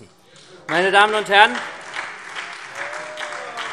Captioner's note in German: Beifall SPD und AfD